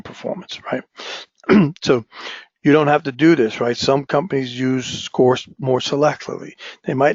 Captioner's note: cough